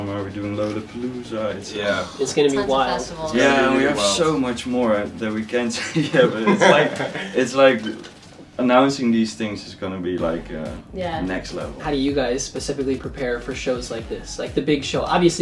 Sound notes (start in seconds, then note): 5.5 laughs